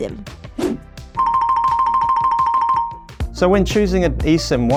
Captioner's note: phone ringing